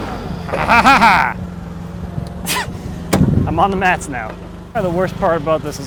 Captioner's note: laughs maniacally